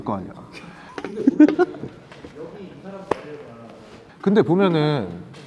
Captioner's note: likes the joke and laughs